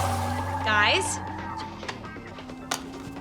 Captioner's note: tires peeling on TV; TV turns off